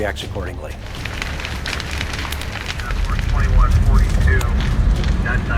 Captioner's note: fire flames crackling